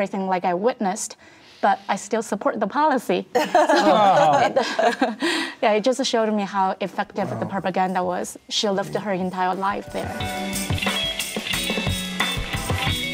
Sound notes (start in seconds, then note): 3.4 laughs; 10.4 soft music